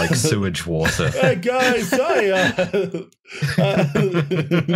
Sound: laughter

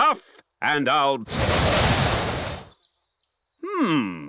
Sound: blows

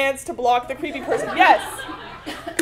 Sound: laugh

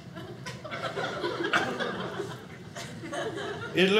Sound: audience laughing

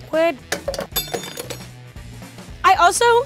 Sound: metallic clattering

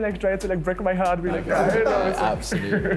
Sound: laughter

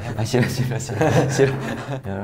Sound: haha

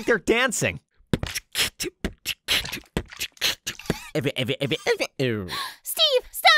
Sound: beatboxing

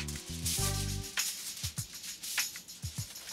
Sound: foil rustling

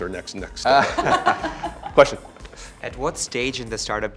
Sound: laugh

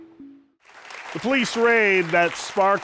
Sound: applause

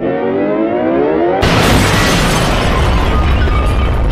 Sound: boom!

